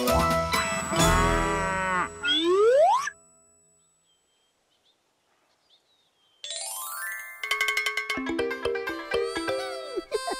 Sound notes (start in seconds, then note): 0.9 mooing; 7.1 bell ringing